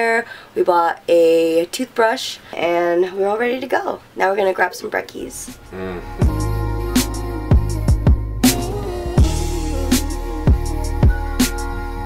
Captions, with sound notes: we bought a toothbrush, and we're all ready to go. Now we're gonna grab some brekkies. - (grunts) (mellow pop music)